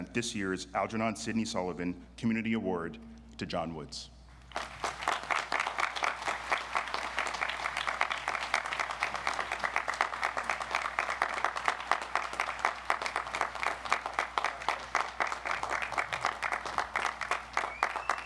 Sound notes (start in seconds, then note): 4.6 audience applauds